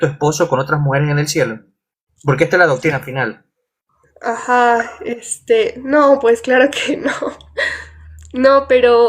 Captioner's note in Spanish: risas